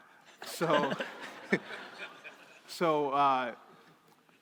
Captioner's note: crowd laughing